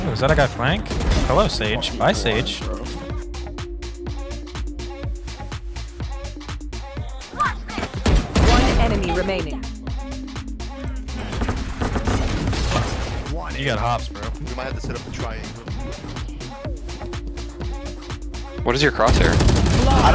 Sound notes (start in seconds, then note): 2.9 upbeat music; 8.0 guns firing; 19.0 guns firing